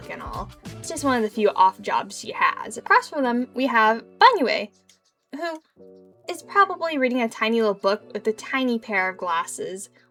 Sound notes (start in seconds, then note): none